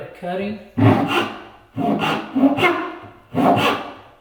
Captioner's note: saw rasping